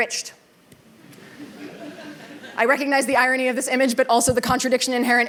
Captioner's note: laughter